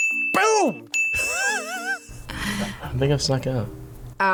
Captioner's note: bell rings; React laughs